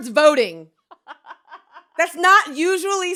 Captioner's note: laughs